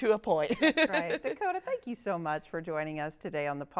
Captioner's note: laughs